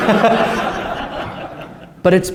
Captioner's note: laughter